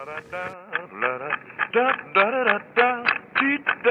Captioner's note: humming, scatting continues